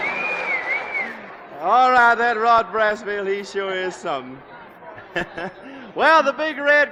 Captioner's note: laughs